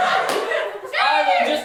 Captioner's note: audience laughter; audience cheering